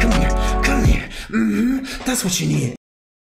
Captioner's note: moaning